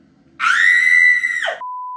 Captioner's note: squeals with delight